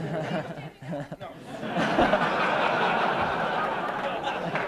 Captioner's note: laughter